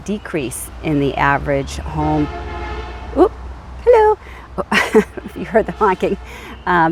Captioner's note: car beeps